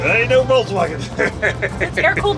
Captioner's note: laughs